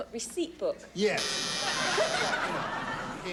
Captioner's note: buzzer